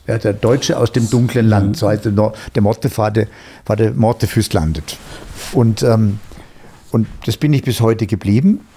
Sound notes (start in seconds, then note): 2.5 Norwegian spoken audio